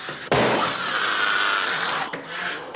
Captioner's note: growling